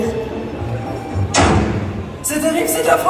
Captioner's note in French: vlam